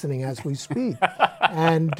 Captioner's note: laughs